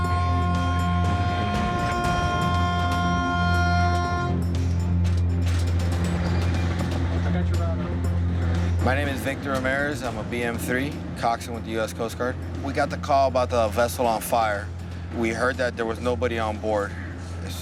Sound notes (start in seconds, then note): 0.0 horn